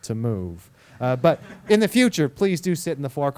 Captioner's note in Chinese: 课堂上笑声